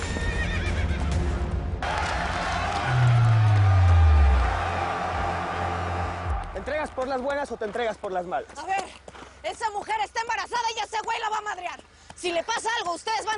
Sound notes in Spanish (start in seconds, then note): 2.0 Relinchos; 3.6 Algarabía en el hipódromo